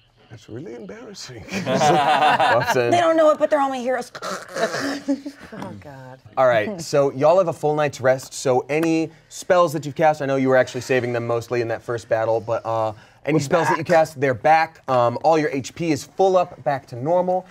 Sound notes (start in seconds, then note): 1.5 everyone laughs; 5.2 snores